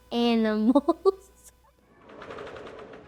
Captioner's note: laughing